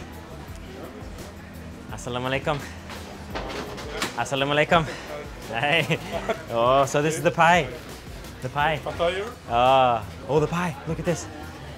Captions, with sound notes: (speaking in foreign language) Hi, oh, so this is the pie, the pie. - (speaking in foreign language) - Oh the pie, look at this.